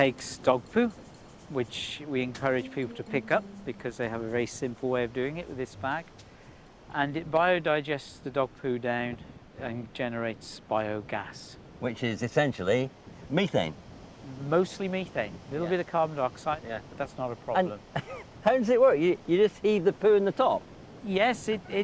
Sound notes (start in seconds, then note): 18.0 laughs